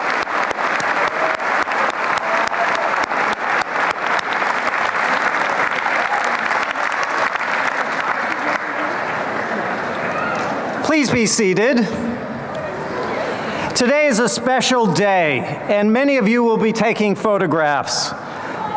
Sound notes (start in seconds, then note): 0.0 cheering and applause; 6.4 crowd murmurs